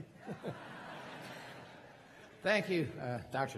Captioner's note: crowd laughing